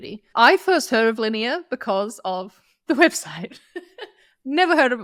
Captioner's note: chuckles